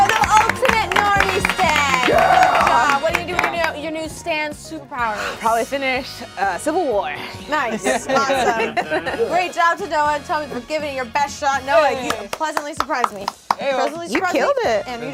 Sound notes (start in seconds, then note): 0.0 group cheers; 7.4 group laughs